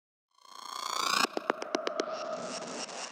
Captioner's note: sound effect